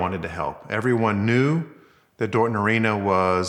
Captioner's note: none